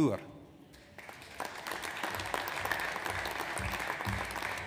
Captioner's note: audience applauds